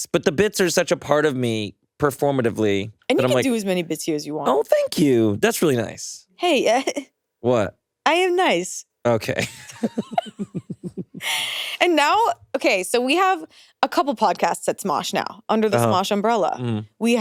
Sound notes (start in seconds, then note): 6.8 chuckles; 9.2 both chuckling